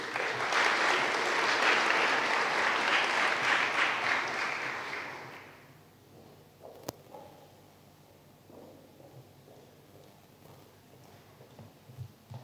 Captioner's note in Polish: oklaski